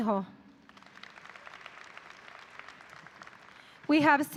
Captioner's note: audience applauding